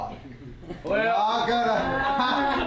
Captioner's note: laughter